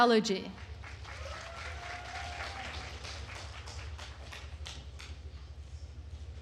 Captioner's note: attendees cheering and applauding